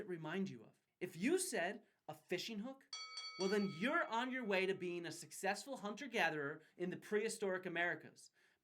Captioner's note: ding ding ding